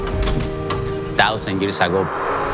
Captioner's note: door clicks